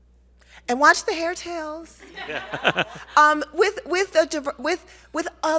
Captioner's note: laughs